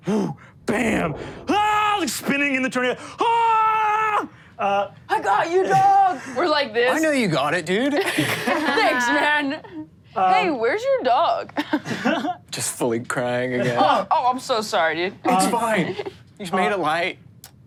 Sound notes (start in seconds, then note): 3.3 screams; 8.4 laughs